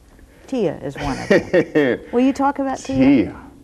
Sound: laughs

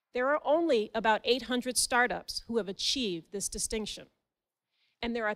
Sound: none

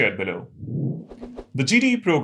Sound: sound effect

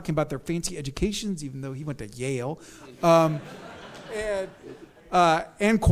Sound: audience laughs

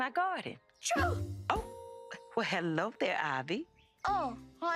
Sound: sneezes

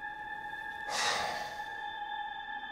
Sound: sigh

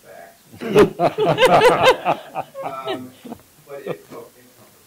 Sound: laughter

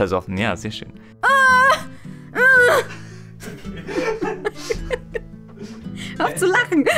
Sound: more combat sound recordings / moaning / laughter

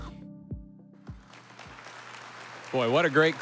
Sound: audience applauding

